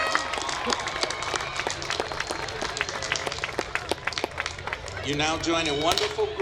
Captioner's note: applause